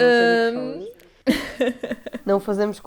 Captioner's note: nervous laughs